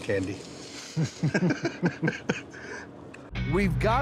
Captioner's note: both chuckling